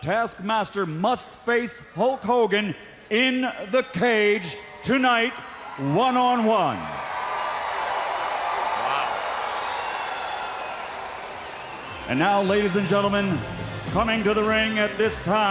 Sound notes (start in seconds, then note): 7.3 crowd cheering